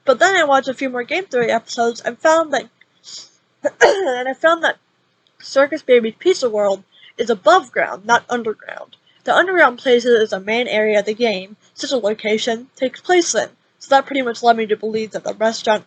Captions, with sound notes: but then I watched a few more Game Theory episodes and found that- *Cough x3* I found that Circus Baby's Pizza World is above ground, not underground. The underground place is the main area the game - Sister Location - takes place in. So that pretty much lead me to believe that the restaurant